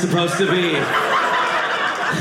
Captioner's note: audience laughing